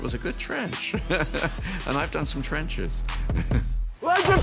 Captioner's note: chuckles; laughs